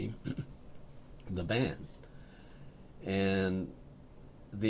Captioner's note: laughs